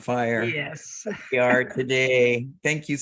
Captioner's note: chuckles